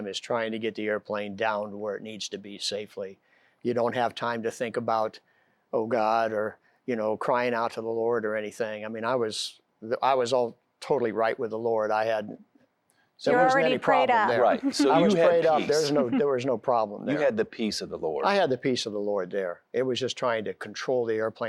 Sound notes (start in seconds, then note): 14.3 giggling